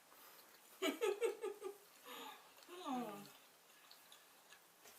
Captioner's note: laughs